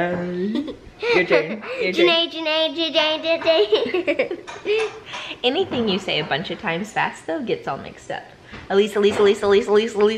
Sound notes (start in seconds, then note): 0.4 giggles; 3.6 both giggle